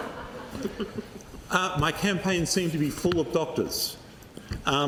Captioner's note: laughter